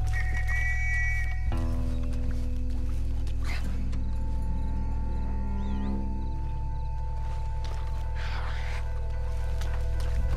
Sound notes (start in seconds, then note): none